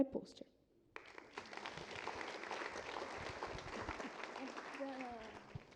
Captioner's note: applause